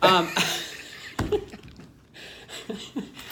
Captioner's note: laughter